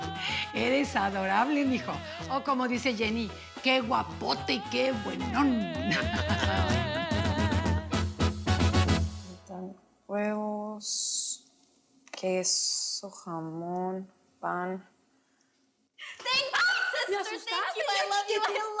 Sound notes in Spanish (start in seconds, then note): 5.9 Risas